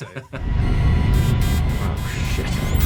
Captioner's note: laughing; alarm blaring